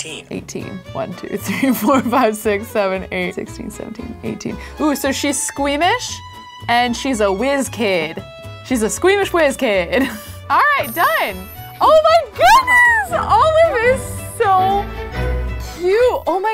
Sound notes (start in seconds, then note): 10.1 laughs